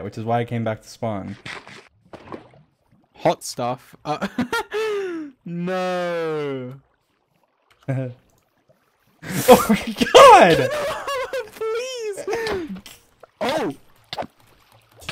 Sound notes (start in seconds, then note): 4.1 laughing